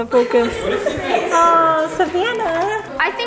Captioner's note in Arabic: تضحك